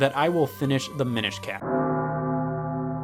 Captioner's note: bell Ringing